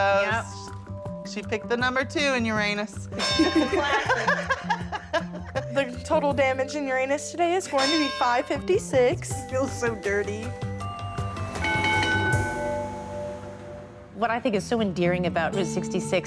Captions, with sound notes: -Yep. Yep. -She picked the number two in Uranus. -It's a classic. [ Laughter ] -The total damage in Uranus today is going to be $5.56. -It feels so dirty. [ Ding ding ding! ] What I think is so endearing about Route 66